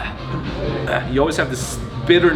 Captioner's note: sighs loudly